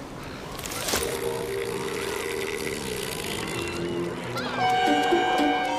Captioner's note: seal lets out a sustained guttural bray